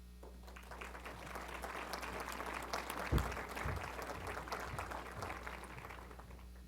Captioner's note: applause